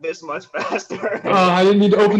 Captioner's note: laughter